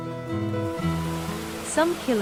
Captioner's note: waterfall sound